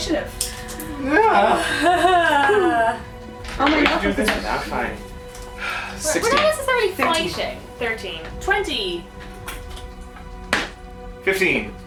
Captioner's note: dice rolling and calling of initiatives